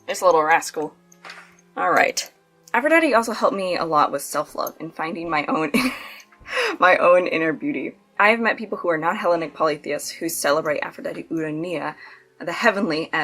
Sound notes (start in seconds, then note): 5.7 laughs